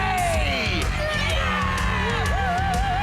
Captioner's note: cheering